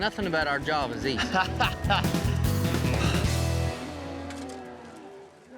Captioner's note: laughs